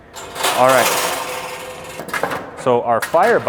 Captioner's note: metal clanking